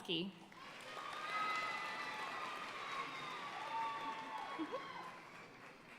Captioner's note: audience cheering and applauding